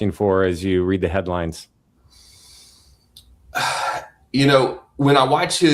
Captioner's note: sighs and gasps